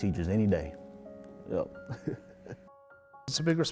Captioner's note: laughs